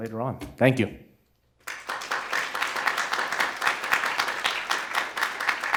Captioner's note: applause